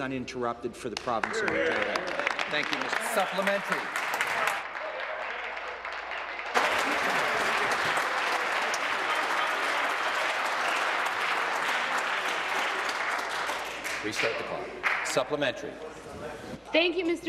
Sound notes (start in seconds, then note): 5.6 applause; 12.3 continued applause